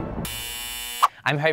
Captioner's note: buzzer rings